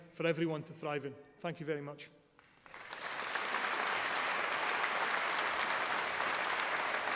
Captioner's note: applause